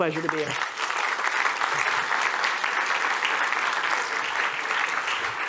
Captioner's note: applause